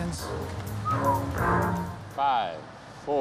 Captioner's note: whistles